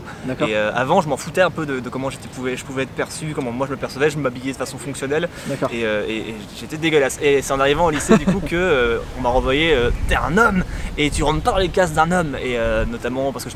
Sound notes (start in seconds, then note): 7.2 laugh